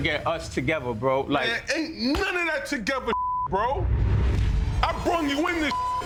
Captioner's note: beep; beep